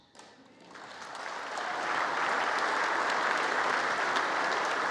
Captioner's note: congress applauding